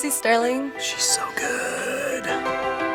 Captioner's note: whispering